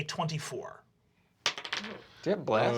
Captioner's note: rolls dice